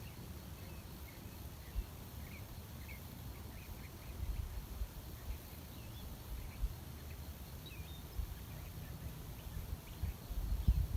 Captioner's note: birdsong in background